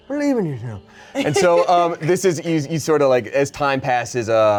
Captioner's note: laughs